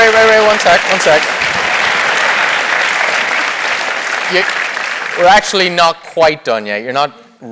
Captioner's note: applause